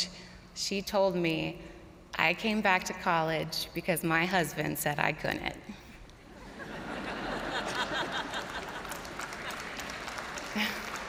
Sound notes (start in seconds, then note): 6.3 crowd laughing; 6.7 crowd applauding